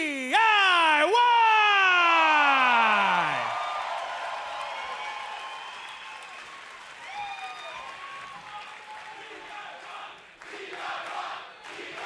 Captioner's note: crowd cheering